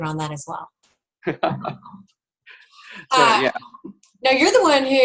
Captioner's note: laughs